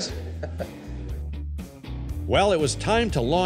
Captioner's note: laughs